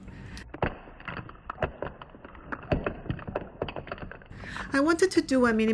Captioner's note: soft sound of tubes falling on the table in slow motion